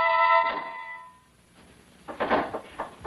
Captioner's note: knock on door